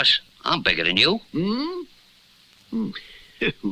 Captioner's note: Simon Gasps